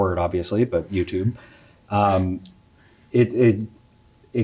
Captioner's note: chuckles